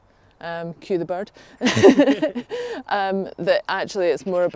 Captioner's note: laughs